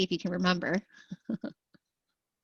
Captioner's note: laughter